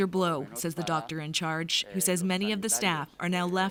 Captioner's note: speaking Foreign Language